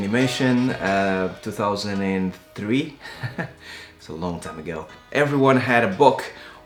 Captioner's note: laughs